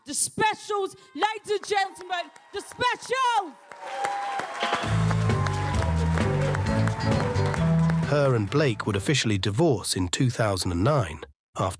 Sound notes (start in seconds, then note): 4.0 audience applauds; 4.6 band playing